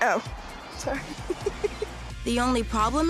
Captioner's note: both laughing